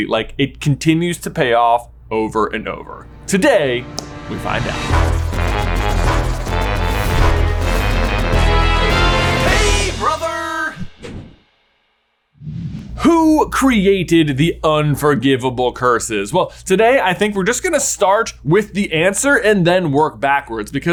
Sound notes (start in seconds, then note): 2.9 upbeat theme music; 12.4 logo whooshing